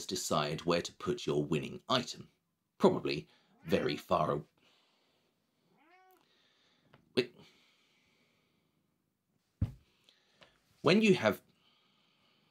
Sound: miaow

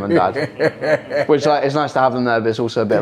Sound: all laugh

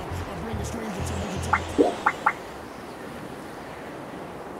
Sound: beeping

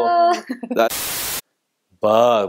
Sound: television static crackling

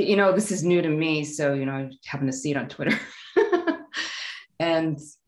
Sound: laughing

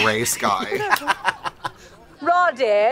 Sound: laughs

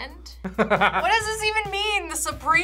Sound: laughs

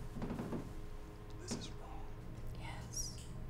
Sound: whispers

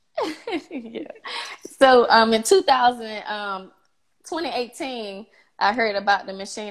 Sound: laughs

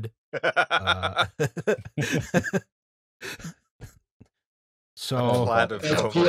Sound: laughter

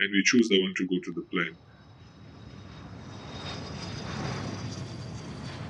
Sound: plane engine roaring

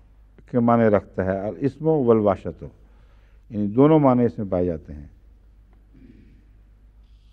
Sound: Arabic

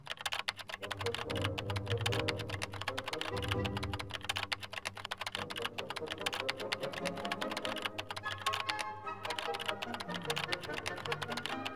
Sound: keyboard clicking continues

